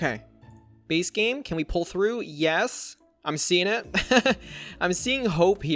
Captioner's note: laughs